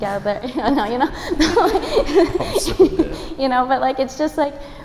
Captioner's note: laughing